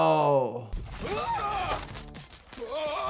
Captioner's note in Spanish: el personaje grita; la chispa crepita; el personaje grita